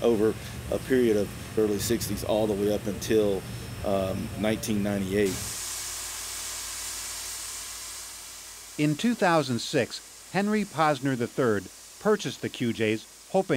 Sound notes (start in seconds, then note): 5.4 steam hissing